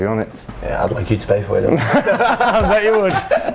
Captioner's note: laughter